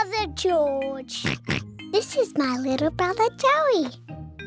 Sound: oinks

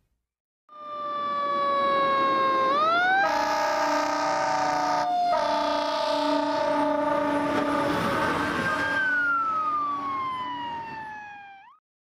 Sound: fire engine siren wails

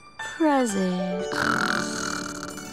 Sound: snoring

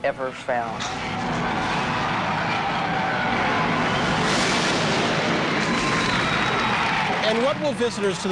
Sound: sounds of thunder, and then applause as the curtain drops

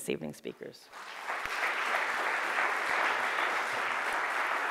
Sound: audience applauding

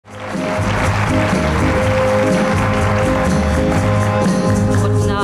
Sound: crowd applauding

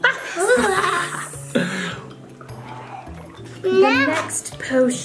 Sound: evil laughing

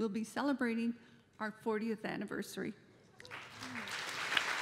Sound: applause

